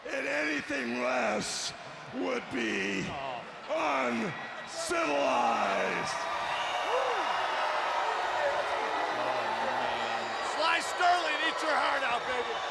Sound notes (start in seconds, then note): 6.2 crowd cheering